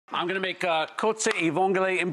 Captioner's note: speaking in foreign language